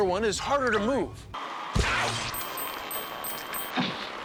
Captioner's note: bell dinging